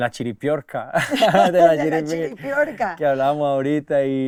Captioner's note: laughter